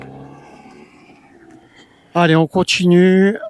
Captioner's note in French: gémissement